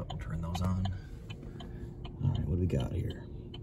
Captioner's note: hazard light clicking